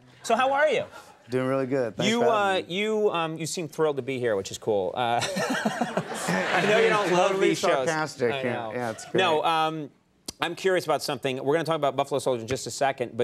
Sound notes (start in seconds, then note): 5.2 Conan laughs; 5.2 audience laughs